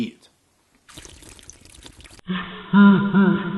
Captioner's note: drinking through straw